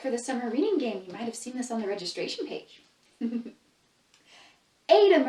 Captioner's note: laughs